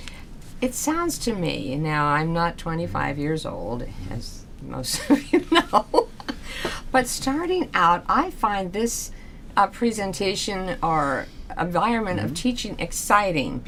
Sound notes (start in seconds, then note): 4.2 laughs